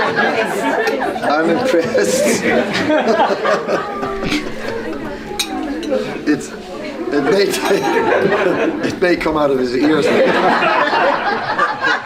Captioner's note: laughter